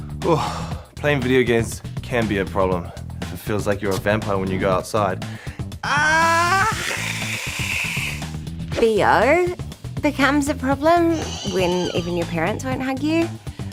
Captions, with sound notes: Ugh. Playing video games can be a problem if it feels like you're a vampire when you go outside. Argh! (HISSES) BO becomes a problem when even your parents won't hug you.